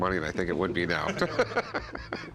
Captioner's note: laughing